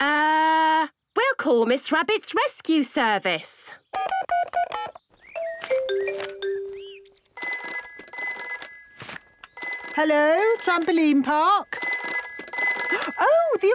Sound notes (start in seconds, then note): 5.4 phone beeping; 7.3 phone ringing